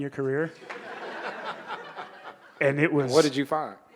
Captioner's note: audience laughing